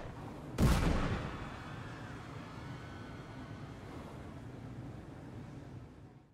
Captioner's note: alarm sounds, gun shots; explosion